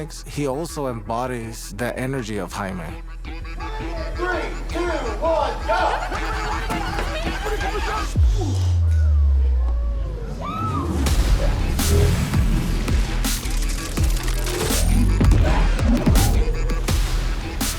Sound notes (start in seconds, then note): 9.7 screams